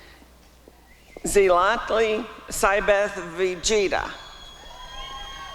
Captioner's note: applause and cheering